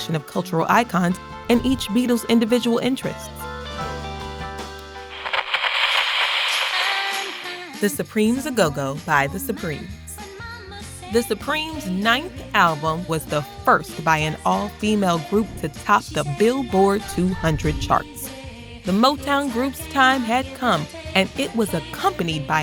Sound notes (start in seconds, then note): 5.1 radio crackles; 5.4 upbeat music plays